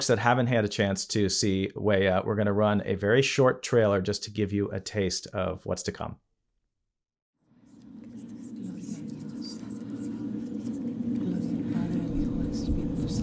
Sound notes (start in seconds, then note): 7.7 faint whispers